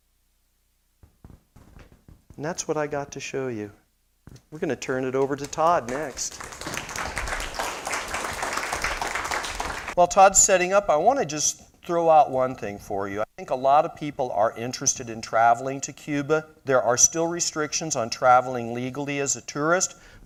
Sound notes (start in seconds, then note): 5.4 applause